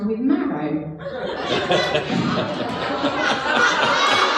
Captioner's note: laughing